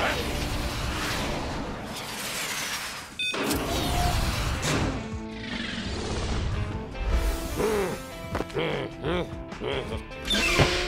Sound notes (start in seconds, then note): 3.2 beeps; 7.2 growls